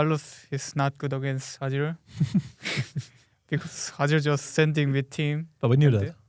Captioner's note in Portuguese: risos